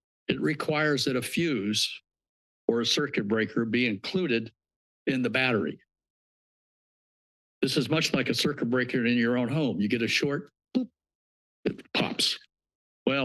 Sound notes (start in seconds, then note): 6.0 pause